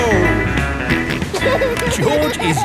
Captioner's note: snorts and laughs